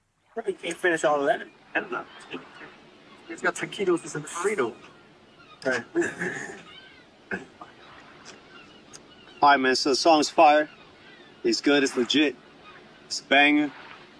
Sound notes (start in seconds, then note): 2.4 seagulls; 6.1 scoffs; 6.6 seagulls and ocean background noise